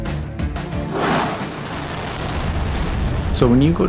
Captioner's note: blasting